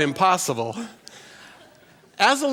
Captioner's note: laughter